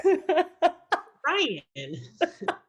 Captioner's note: laughs